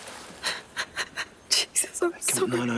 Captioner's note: Jodie sobbing